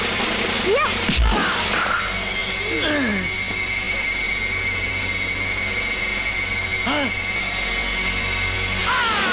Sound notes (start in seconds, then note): 6.8 gasps